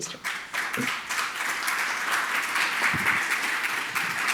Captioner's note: audience applauds